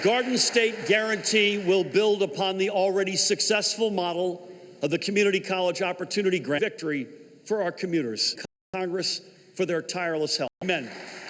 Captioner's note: applause